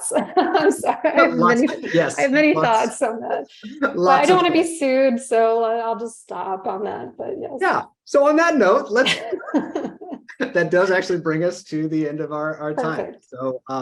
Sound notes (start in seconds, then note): 0.0 laughs; 3.8 playfully